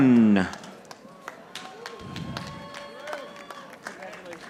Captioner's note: audience applauding